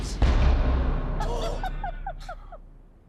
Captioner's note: laughter